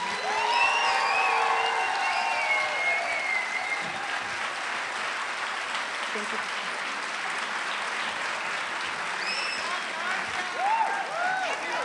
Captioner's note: applause